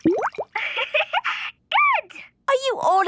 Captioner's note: giggling